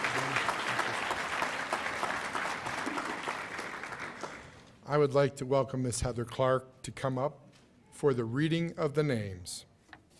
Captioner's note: cheers and applause